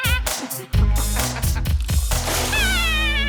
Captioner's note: laughs